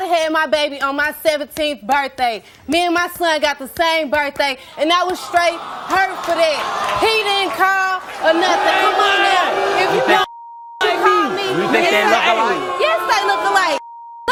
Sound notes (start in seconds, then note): 8.9 audience booing